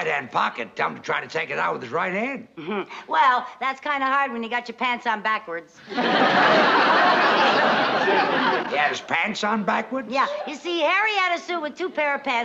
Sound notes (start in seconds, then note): 2.6 chuckles; 5.8 laughter